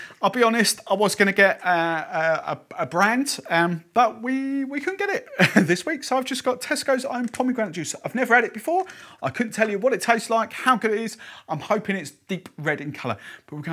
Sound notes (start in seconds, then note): 5.1 laughs